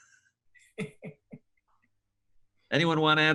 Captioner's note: laughs